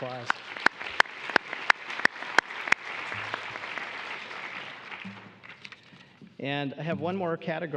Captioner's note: applause